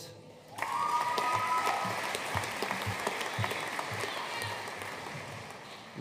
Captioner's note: audience cheering and applauding